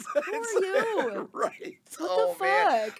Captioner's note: laughing